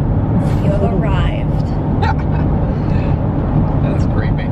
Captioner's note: laughter